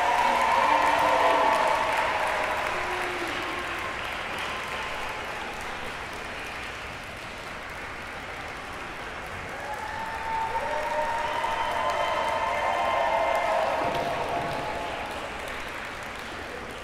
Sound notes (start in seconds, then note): 3.4 audience applauds